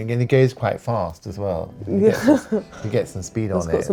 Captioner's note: chuckles